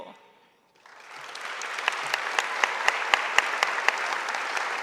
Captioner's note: audience applauding